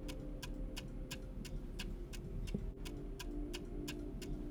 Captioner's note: clock ticks